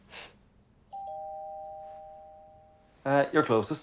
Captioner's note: doorbell rings